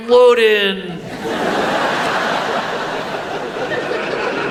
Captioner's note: audience laughs